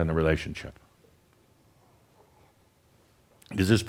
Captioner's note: slight pause